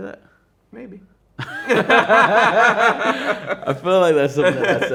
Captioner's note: both laughing